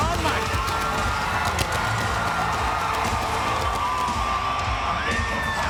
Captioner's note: audience cheering; pyro popping